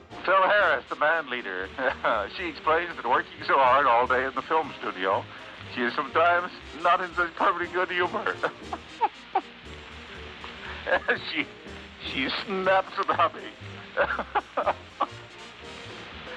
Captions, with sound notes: "Phil Harris, the bandleader..... She explains that working all day at the film studio she is sometimes.... [begins to laugh]"